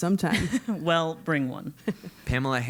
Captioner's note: laugh